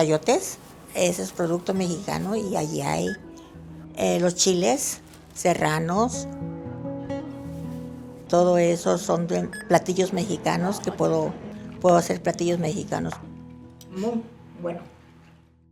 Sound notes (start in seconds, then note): 8.2 continues in Spanish